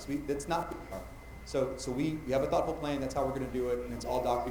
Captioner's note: mic cutting out